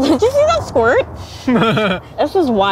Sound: laughing

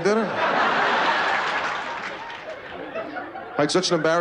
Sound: laughter

